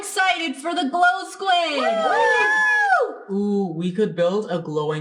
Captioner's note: cheering